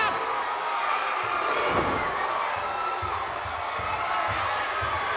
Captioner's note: crowd cheering